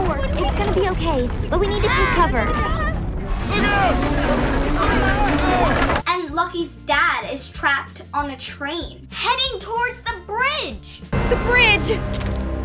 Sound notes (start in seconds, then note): 3.5 shouting